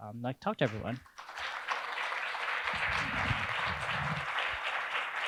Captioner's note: audience applauding